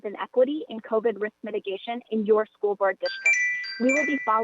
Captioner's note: chime